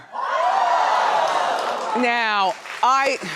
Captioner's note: audience cheering